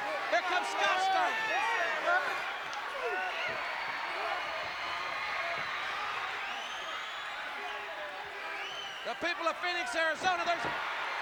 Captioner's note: applause